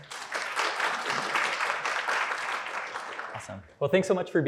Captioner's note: applause